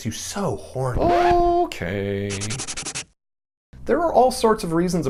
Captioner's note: record scratch; erasing sound effect